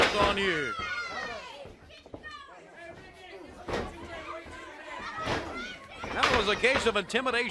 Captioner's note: crowd chatter